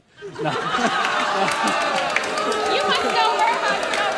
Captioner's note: booing